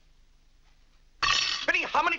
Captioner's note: silverware clattering